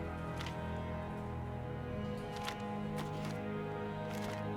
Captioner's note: page turning